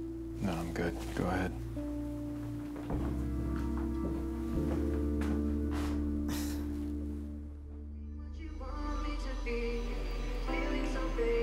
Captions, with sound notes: - No, I'm good, go ahead. (sighs) (pop music)